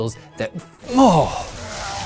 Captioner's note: blood gushing; gasp